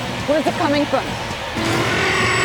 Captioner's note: roars